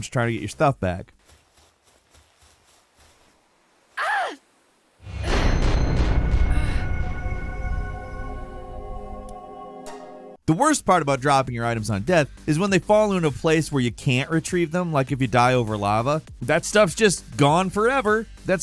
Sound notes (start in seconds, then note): 1.0 snow rustles; 4.2 character grunts; 5.1 dramatic music